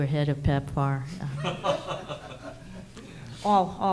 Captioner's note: men laughing